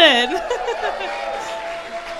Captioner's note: crowd applauds; laughs